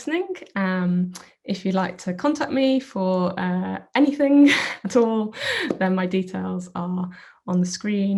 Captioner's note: chuckles